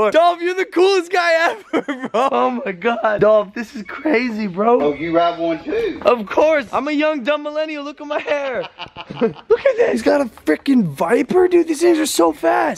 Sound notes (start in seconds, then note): 8.0 laughs